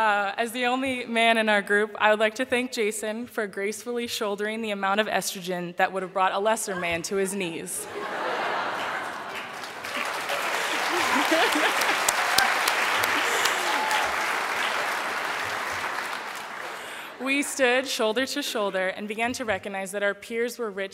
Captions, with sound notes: As the only man in our group, I would like to thank Jason for gracefully shouldering the amount of estrogen that would have brought a lesser man to his knees. (laughter) (applause) We stood shoulder to shoulder, and began to recognize that our peers were rich